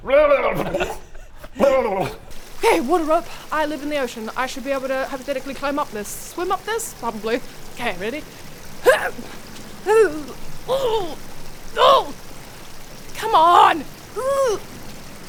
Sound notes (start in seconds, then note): 8.8 hrrgh!; 9.8 urrghuh; 10.6 oohgh